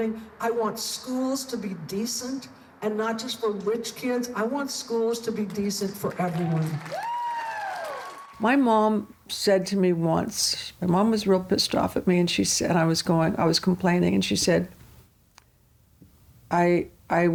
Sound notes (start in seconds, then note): 6.1 crowd cheers